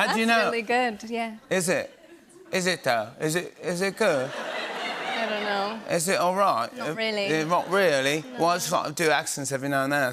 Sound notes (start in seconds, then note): 3.9 laughter